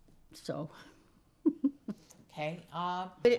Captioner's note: laughing